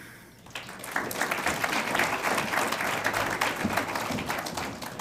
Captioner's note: audience applauds